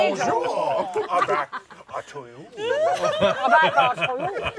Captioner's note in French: rires